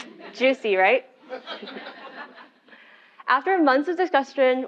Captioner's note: laugh